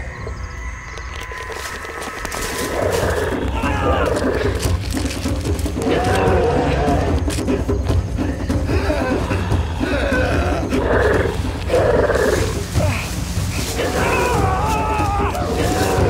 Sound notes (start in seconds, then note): 1.7 growling intensifies; 8.4 gasping